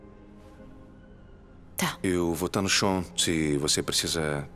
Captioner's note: none